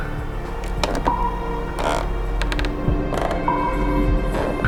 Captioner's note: stairs creaking